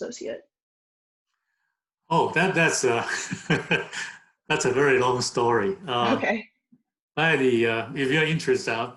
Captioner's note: laughs